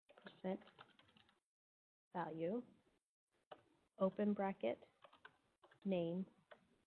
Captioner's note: computer keys clicking